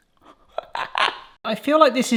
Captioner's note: laughs